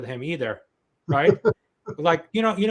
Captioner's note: chuckles